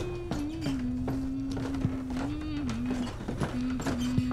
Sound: footsteps thudding

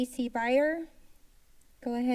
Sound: silence

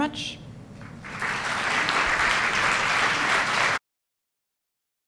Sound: applause

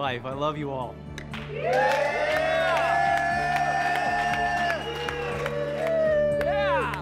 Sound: cheering

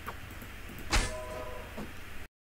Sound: god sound effect

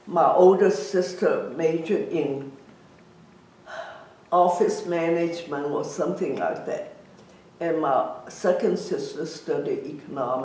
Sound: sighs

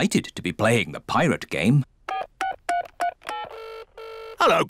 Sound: line ringing; dialing phone

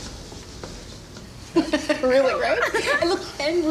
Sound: Teacher Amy and Dawn laughing

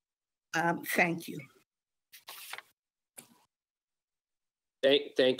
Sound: paper shuffling

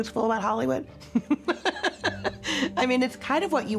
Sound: chuckles

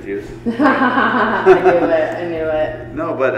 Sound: laughing

